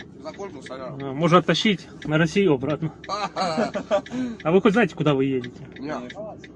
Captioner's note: laugh